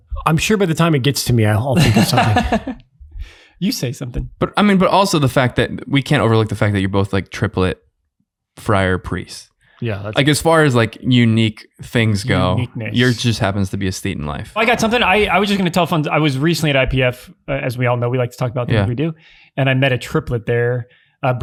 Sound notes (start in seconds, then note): 1.8 laughing